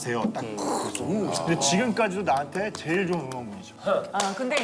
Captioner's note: laughs